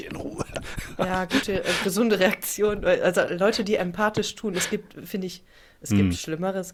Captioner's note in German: gelächter